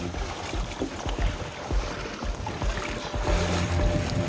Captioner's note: water sloshes; tense music